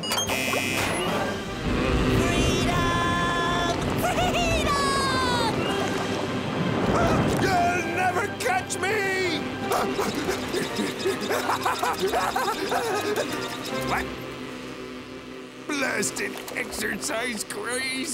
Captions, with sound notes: [buzzing] Freedom! Freedom! You'll never catch me! [panting and laughing] What? Blasted exercise craze!